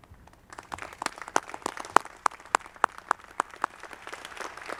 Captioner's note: audience clapping